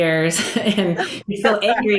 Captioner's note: chuckling